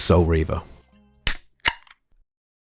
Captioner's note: crack pop of soda can